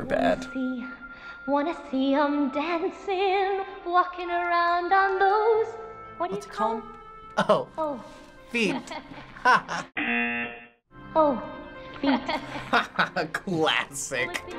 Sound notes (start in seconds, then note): 5.9 singing along; 8.6 laughing; 10.0 buzzer; 11.9 Flounder laughing; 12.1 mocking laugh